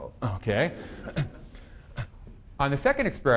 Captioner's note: audience laughing